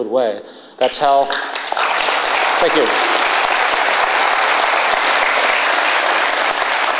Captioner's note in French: Applaudissements